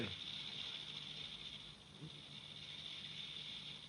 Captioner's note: sonajeros de serpientes